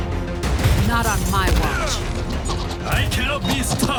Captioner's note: grunts